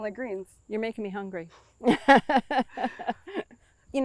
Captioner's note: laughs